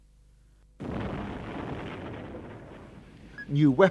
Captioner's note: explosion